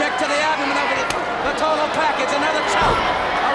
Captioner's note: blows thudding; blows thudding